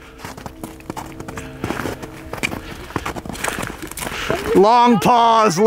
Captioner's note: gravel crunching